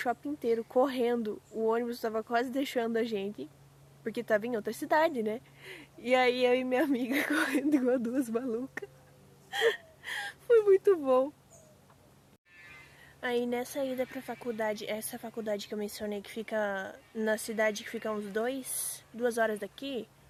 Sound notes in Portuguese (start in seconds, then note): 9.5 choro